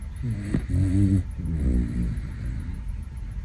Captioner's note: puppy snoring